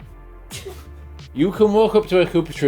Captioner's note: laughs